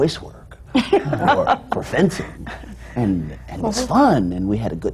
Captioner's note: laughter